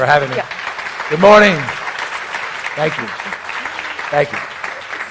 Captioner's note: audience applauds